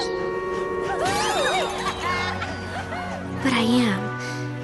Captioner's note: laughter